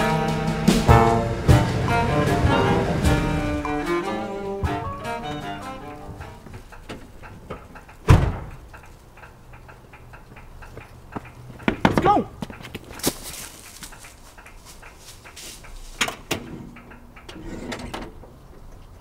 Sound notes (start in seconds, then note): 11.7 knock; 15.9 door opens